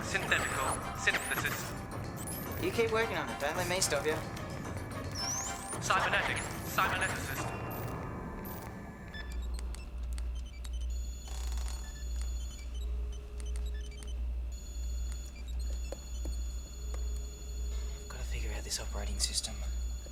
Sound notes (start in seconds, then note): 7.8 beeping